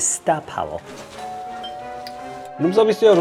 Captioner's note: ding-dong